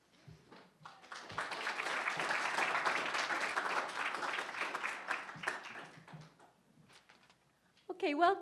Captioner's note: audience applauds